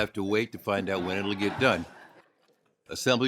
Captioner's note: ringing bell